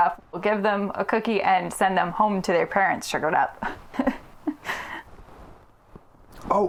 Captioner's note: giggles